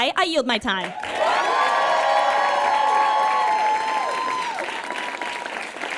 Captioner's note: audience cheers and applauds